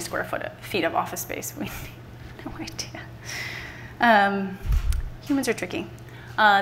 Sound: laughs

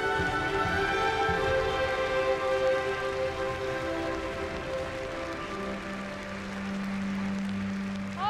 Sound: applause

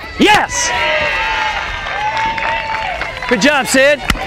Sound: crowd cheers

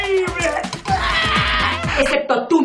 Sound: yells in oscarinean

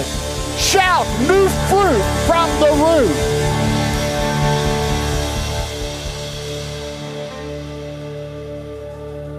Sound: congregation applauding

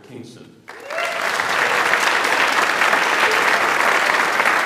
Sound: audience applauds

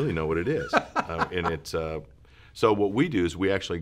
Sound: laughing

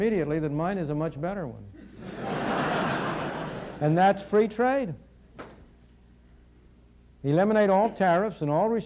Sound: laughter in audience

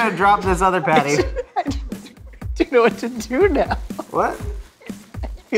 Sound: laughs

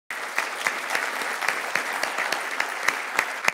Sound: applause

